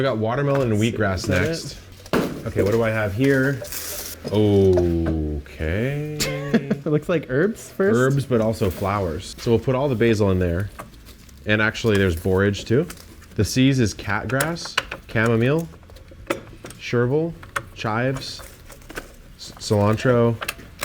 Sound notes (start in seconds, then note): 5.8 laughs